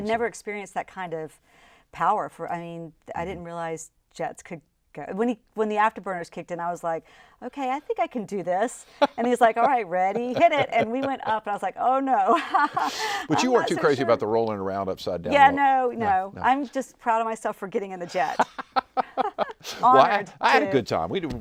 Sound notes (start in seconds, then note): 8.9 laughing; 12.9 laughs; 18.1 both laughing